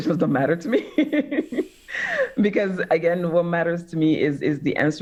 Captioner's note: laughs